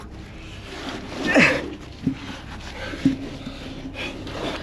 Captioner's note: grunting